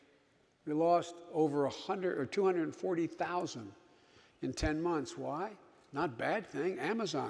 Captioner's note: none